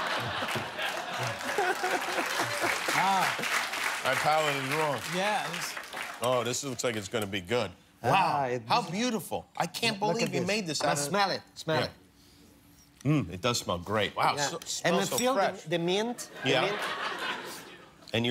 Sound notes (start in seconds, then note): 0.0 laughter; 1.7 cheers and applause